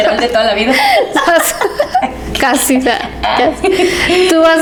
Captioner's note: laughs